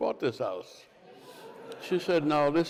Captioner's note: crowd laughs